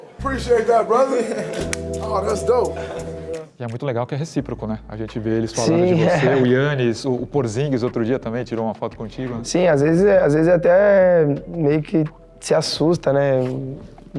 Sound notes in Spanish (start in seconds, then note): 5.8 se ríe